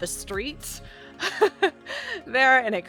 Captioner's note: laughs